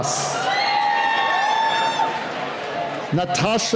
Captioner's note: cheering